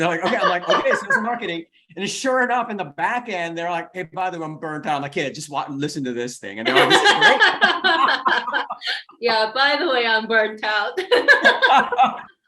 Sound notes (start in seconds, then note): 6.6 both laughing; 10.9 laughs